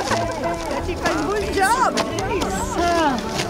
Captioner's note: laughing